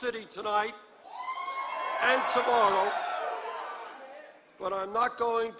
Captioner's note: applause